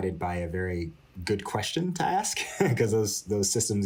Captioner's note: laughter